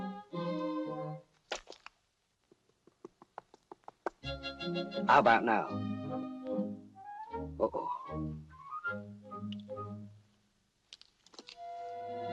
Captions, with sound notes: [ TAPPING ] How about now? Uh-oh.